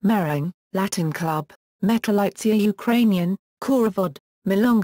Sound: Ukrainian

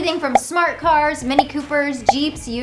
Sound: graphics popping

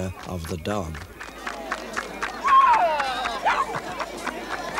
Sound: cheering and applause

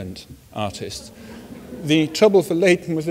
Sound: audience laughs softly

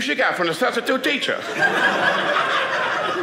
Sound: audience laughing

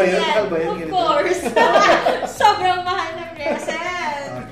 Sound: laughs

